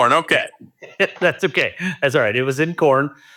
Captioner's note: laughing